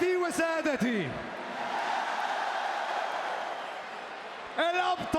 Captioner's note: applause